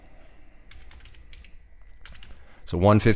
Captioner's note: typing